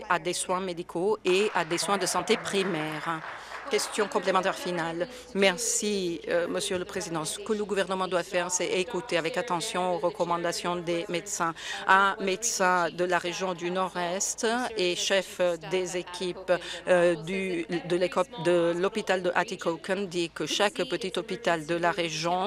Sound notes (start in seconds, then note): 4.5 applause